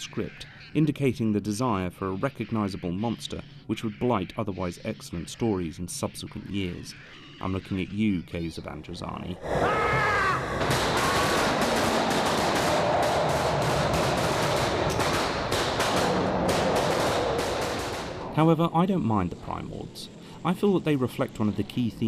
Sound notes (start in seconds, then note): 12.6 gunfire; 15.4 roaring